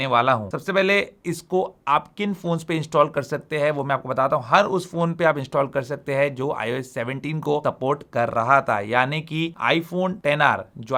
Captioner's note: speaking in Hindi